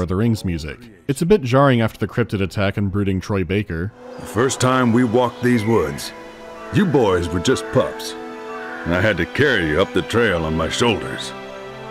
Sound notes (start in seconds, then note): none